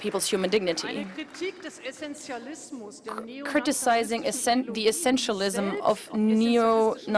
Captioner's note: applause